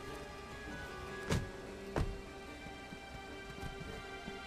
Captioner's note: doors closing